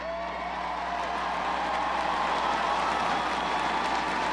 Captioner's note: crowd cheers